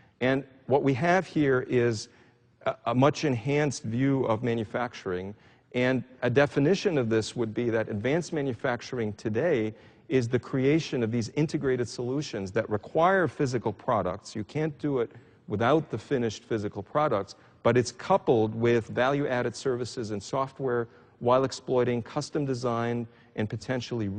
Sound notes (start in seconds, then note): none